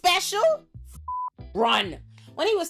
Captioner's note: beep